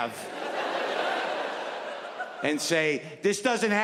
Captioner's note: audience laughing